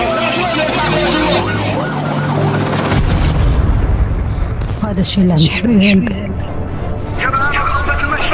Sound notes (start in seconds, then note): 2.8 explosion